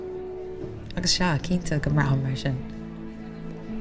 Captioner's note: in irish